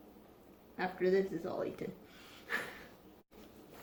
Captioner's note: chuckles